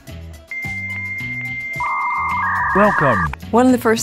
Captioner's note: dialup modem sounds